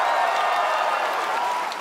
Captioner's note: cheers and applause